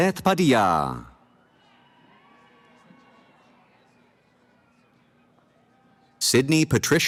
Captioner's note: cheering